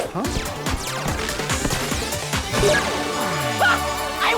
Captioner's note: music plays, game beeps, bells ding!